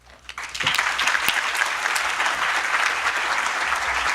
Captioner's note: audience applauding